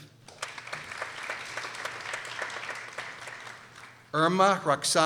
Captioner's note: people applauding